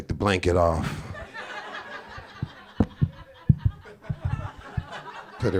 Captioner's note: audience laughing